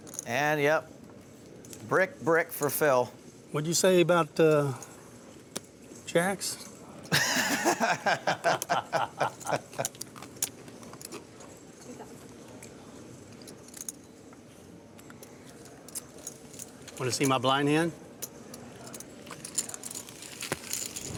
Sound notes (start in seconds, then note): 7.1 laughs